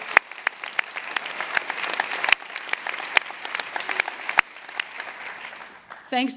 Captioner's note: applause